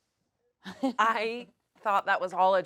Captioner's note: laughs